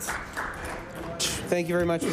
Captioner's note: applause